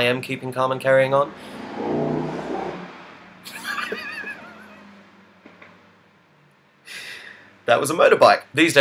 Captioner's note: motorbike engine revs outside